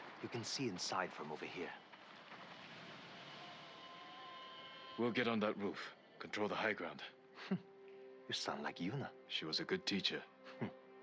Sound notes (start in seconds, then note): 7.4 laugh